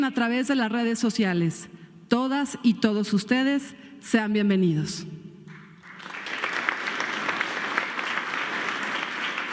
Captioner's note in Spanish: aplausos